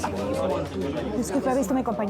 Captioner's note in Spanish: bullicio